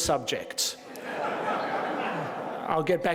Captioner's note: attendees laughing